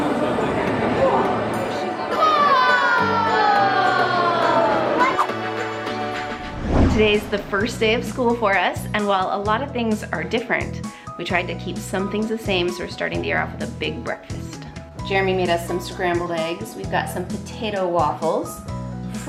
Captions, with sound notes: (kids exclaim) Today's the first day of school for us and while a lot of things are different, we tried to keep some things the same. So we're starting to year off with a big breakfast. Jeremy made us some scrambled eggs. We've got some potato waffles,